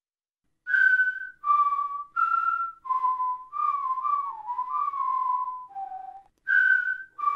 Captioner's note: off-key whistling